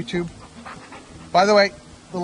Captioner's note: dog panting